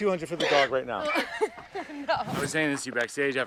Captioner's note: laughs